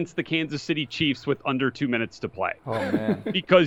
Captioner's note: laughter